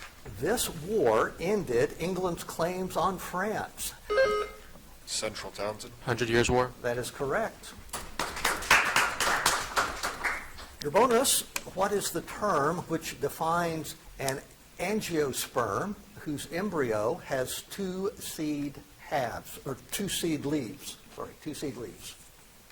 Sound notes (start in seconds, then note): 4.0 buzzer chiming; 7.9 audience applauding